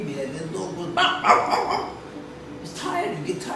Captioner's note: barks